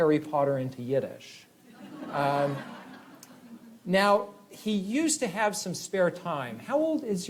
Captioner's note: laughter